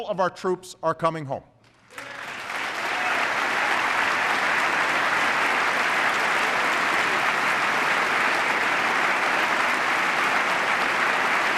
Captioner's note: applause